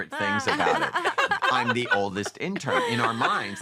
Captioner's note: laughter